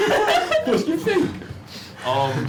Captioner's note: laughter